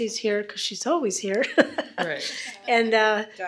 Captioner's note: laughs